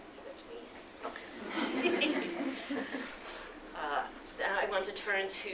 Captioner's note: laughter